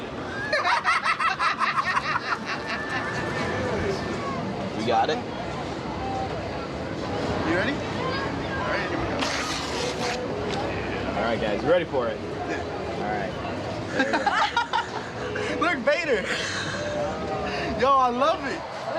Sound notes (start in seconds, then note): 0.4 laughing; 14.3 laughing